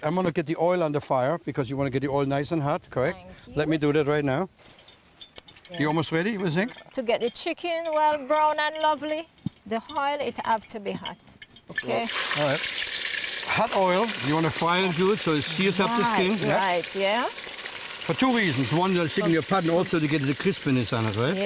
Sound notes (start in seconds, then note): 4.6 oil crackling; 11.5 oil</b> <b>sizzling loudly